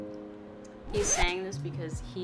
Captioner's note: record scratches